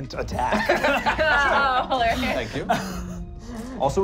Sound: laughing

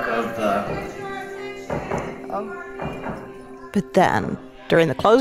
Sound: background voices speaking indistinctly

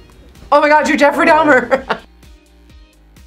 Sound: laughs

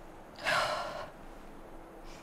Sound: sighs

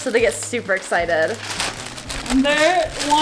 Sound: paper shredding

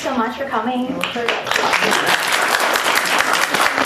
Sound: applause

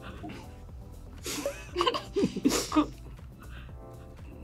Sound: both laughing

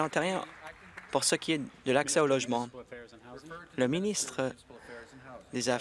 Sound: applause

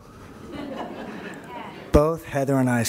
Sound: laughter

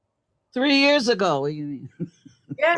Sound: laughs

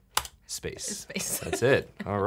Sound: laughing

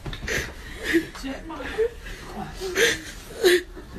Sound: crying

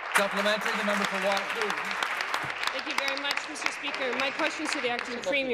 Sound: applause

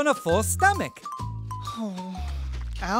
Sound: moan

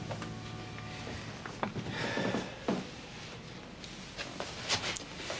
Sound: Nasir sighs

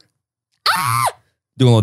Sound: shrieks

